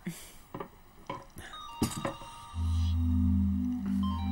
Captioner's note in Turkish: Telefon çalıyor